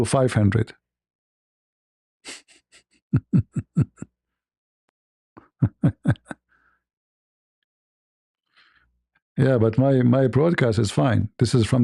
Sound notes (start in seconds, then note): 2.9 ketawa